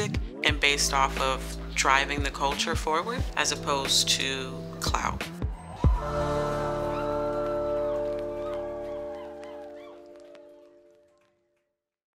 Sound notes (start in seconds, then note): 5.4 people cheering; 5.5 smooth music